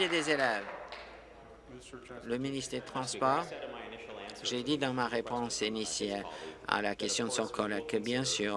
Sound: applause

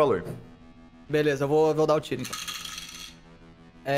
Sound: rolls dice

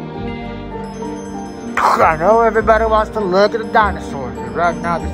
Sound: Ray on Radio

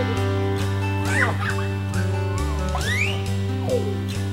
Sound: giggling

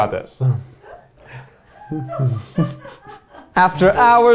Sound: producers laughing

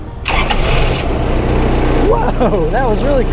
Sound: train rumbling

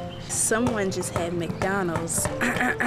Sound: clears throat

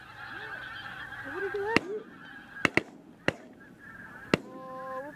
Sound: shooting sounds in the distance

